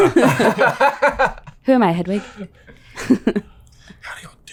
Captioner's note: laughing